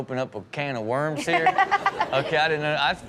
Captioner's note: Chanel and audience laughing